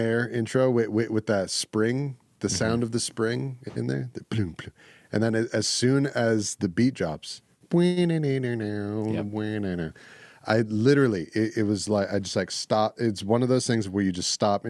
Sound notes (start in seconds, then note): 9.1 humming